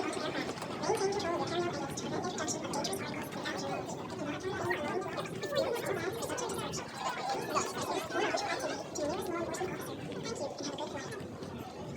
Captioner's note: background noise at Airport